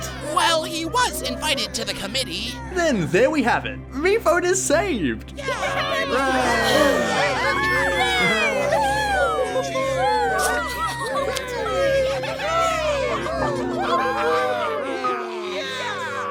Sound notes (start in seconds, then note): 6.1 cheering continues; 13.4 somber music